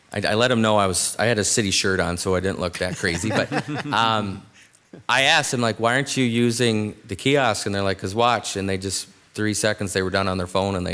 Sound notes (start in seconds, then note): 2.8 members laughs